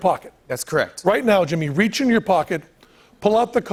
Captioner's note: none